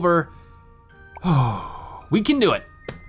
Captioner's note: heavy sigh